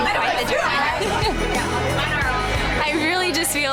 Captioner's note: women cheering; upbeat music